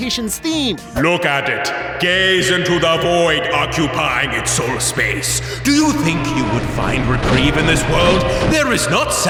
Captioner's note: demonic voice